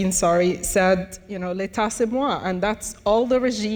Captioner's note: speaks in foreign language